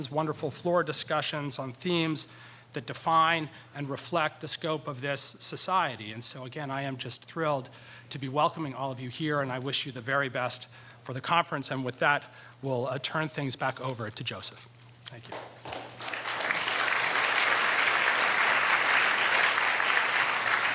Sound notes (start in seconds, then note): 15.3 audience applauding